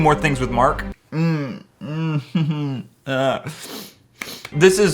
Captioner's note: groaning